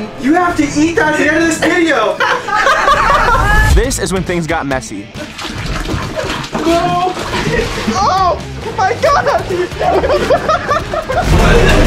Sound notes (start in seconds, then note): 1.6 all laughing; 5.0 milk splashing; 10.8 laughs; 11.6 coughing; 11.6 intense music